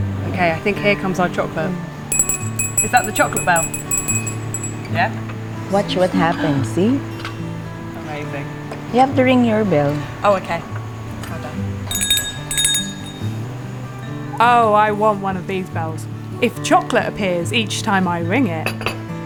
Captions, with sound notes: Okay, I think here comes our chocolate. (Bell rings) Is that the chocolate bell? Yeah? Watch what happens, see. Amazing. You have to ring your bell. Oh, okay. (Bell rings) Oh, I want one of these bells, if chocolate appears each time I ring it.